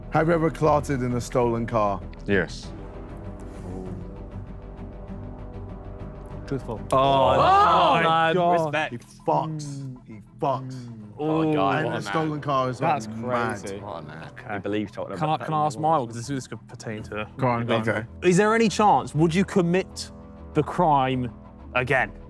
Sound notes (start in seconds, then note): 4.2 dramatic music; 7.0 Sidemen cheer